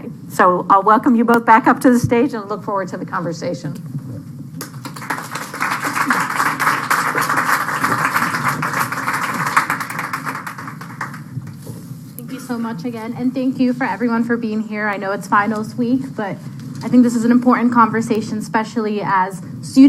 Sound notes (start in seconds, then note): 4.6 applause